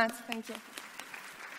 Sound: audience clapping

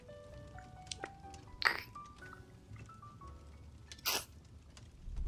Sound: kissing SFX

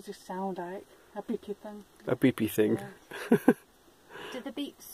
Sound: laughs

